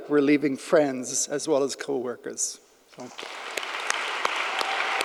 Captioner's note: audience applauding; claps